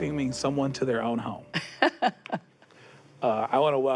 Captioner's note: laughs